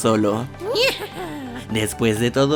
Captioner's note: evil laugh